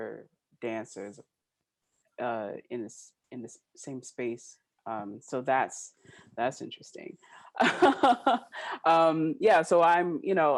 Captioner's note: laughing